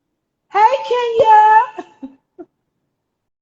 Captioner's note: chuckles